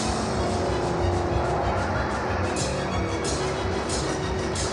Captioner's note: car racing sounds and music